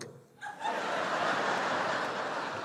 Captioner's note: laughter